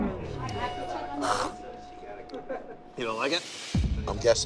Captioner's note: retches